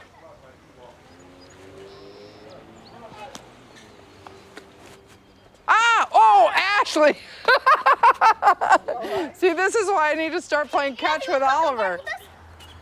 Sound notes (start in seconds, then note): 7.0 laughs